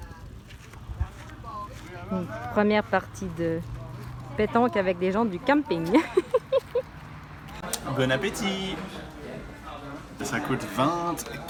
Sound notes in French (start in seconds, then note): 5.9 rires